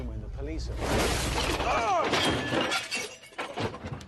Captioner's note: crashing